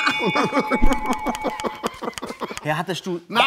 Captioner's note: lacht